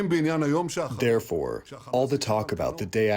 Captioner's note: through translator